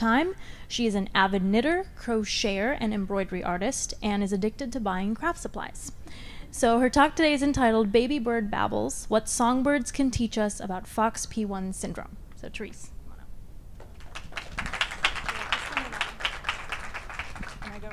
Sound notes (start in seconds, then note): 13.8 audience applauds